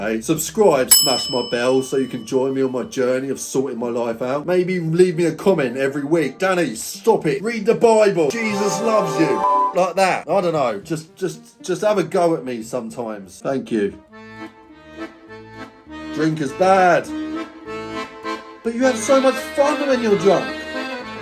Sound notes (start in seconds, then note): 8.3 angelic music; 8.4 beep; 13.9 playful music